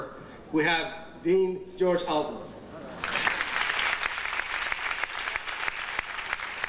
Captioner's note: audience applauding